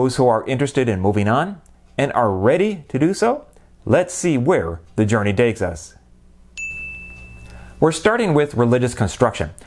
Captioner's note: chime